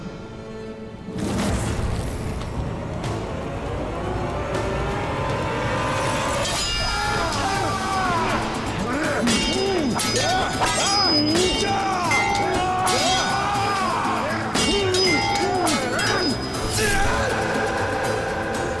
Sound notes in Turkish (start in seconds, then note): 6.4 Kılıç sesleri; 6.5 Bağırma sesleri; 8.7 Kılıç sesleri